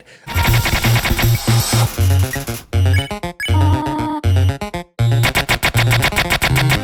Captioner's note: upbeat electronic music; electronic beeping